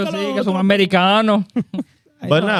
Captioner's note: speaking In Spanish